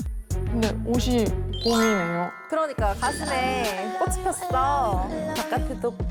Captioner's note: unexpected blooming sound effect